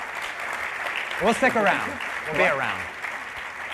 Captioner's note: applause